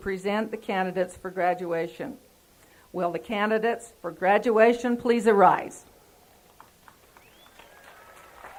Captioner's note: applause